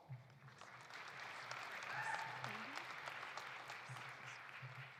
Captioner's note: audience applauding